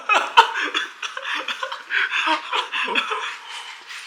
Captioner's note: happy laughter